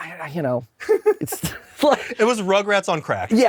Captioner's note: laughs